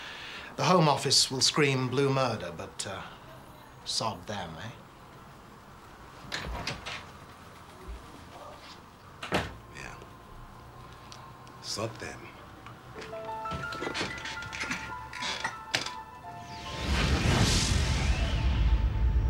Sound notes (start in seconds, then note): 6.0 door clicking; 9.2 door thudding; 13.0 soft orchestral music; 16.2 intense eerie music; 19.1 eerie orchestral music